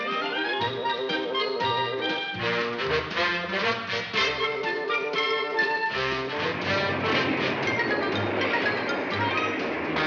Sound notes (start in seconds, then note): 0.0 instrumental music; 6.2 chugging